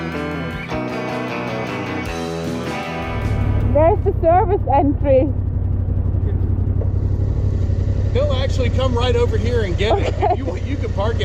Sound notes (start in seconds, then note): 5.6 bike engine sputtering